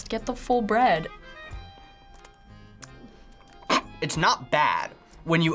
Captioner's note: snorting